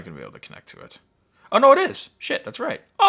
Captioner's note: none